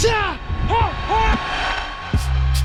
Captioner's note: shouting; relaxed electronic music